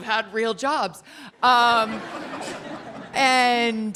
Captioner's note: laughing